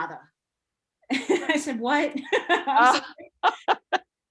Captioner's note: laughing